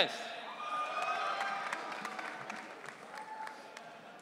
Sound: audience cheering

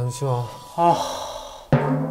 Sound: deep sigh

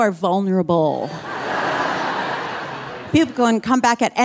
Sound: audience laughing

